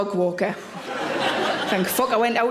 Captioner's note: audience laughs